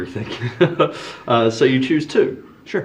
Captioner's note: laughing